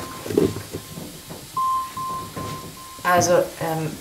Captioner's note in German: GPS-Signalton